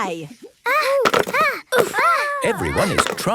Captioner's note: all grunting